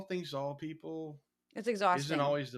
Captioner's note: laugh